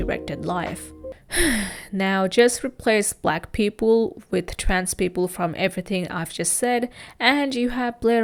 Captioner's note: sighs